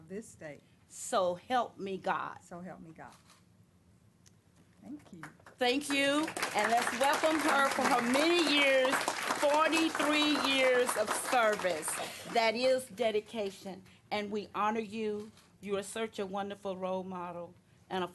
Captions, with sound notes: >> REPEATED. >> THANK YOU. >> THANK YOU, AND WELCOMED HER FOR MANY YEARS 43 YEARS OF THE SERVICE. (CLAPPING.) THAT IS DEDICATION AND WE HONOR YOU, YOU'RE SUCH A WONDERFUL ROLE MODEL AND A PHENOMENAL